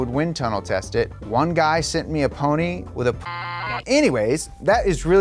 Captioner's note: beep